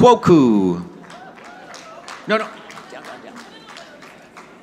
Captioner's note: audience clapping